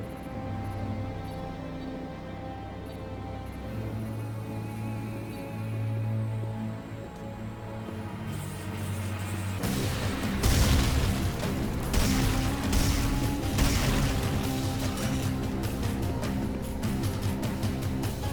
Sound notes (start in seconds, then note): 0.0 suspenseful music; 9.6 gunshots; 12.6 suspenseful music